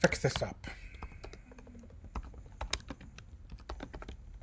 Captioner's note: typing